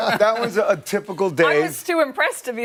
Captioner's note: laughter